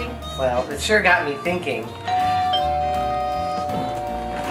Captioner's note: doorbell